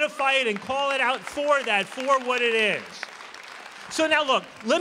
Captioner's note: applause